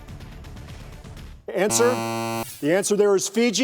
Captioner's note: buzzer sounds